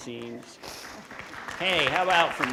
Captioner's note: audience applauding